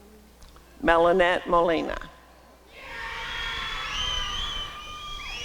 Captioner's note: applause and cheering